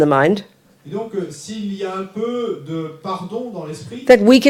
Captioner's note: French